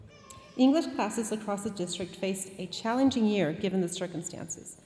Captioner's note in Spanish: hablando en inglés